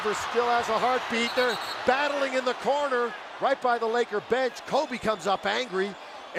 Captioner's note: cheers and applause